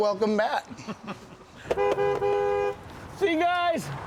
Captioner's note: horn honks